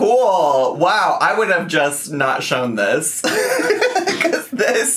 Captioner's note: laughs